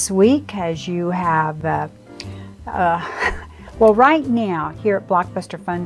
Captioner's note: laughs